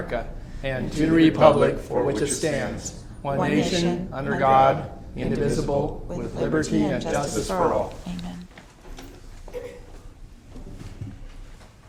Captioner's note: reciting the pledge of allegiance